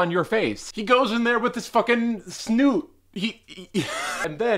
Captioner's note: laughs